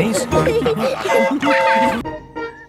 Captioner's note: train whistle toots